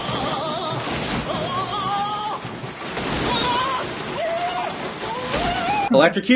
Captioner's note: electrocution induced grunting and screaming